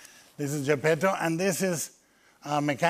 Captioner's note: none